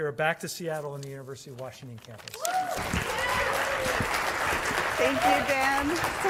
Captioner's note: applause